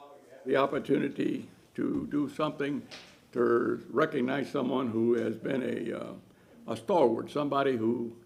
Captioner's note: off microphone